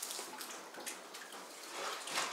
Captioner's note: splashing